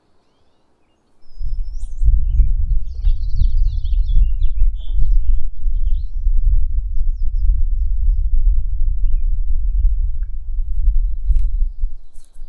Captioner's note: several birds singing